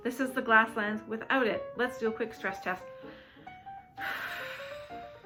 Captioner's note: blowing air